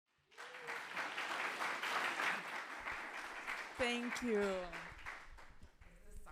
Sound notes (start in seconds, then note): 0.1 audience applauding